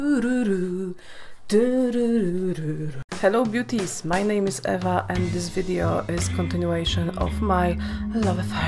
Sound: humming

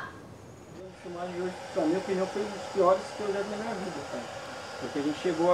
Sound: speaking in foreign language; speaking foreign language

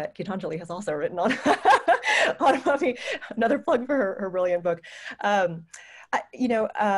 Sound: laughter

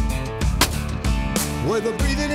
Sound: gun firing

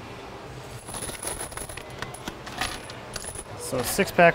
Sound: screws clattering

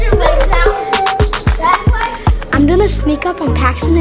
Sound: kid mumbling

